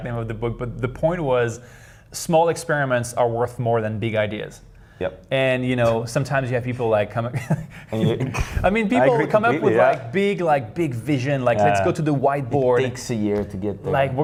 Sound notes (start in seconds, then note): 7.4 laughs